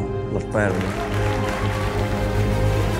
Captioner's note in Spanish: vítores